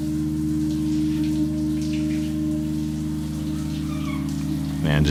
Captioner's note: shower water running